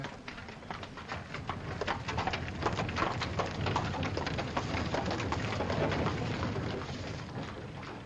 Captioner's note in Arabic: حوافر تركض بعيدا